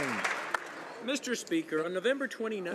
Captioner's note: applause